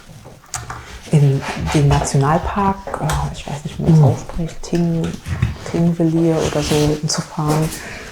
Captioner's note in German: schnauben